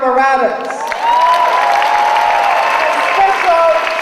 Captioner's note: audience applauding